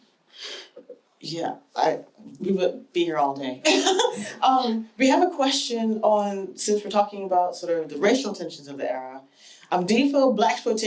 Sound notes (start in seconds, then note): 3.7 laughs